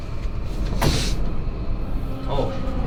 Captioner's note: sniff